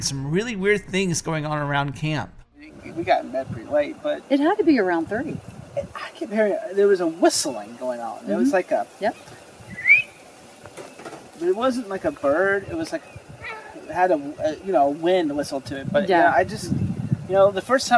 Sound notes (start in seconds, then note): 9.7 whistle